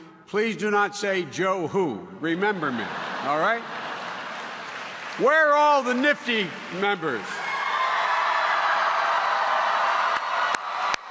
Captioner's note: cheering